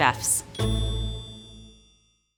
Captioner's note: bell dinging